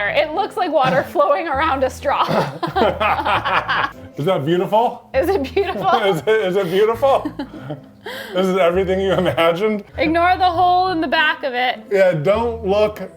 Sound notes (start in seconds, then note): 2.1 both laugh